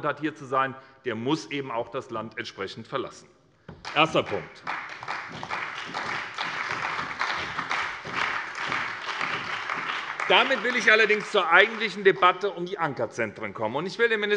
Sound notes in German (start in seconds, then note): 3.8 Beifall bei der SPD, der CDU, dem BÜNDNIS 90/DIE GRÜNEN und der FDP